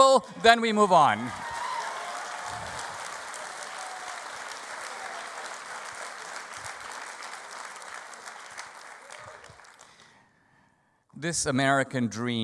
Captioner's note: audience applause